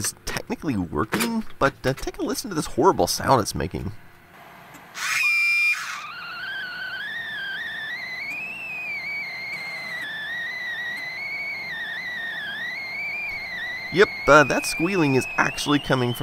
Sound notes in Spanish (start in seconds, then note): 4.9 chillido